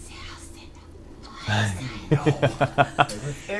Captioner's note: speaking Undercommon